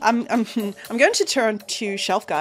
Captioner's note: chuckles